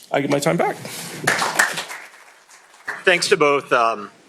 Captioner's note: applause